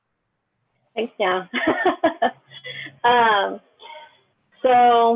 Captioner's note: laughs